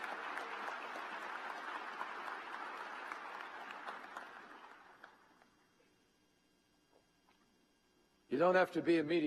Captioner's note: applause